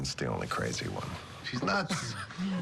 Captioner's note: laughter